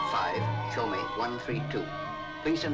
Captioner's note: speaks in foreign language